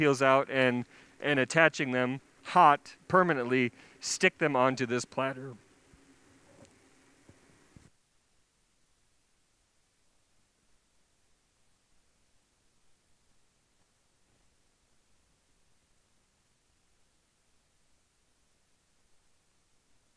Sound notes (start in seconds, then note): 8.8 microphone thump; 8.8 silence